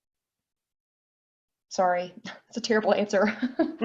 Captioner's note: laughs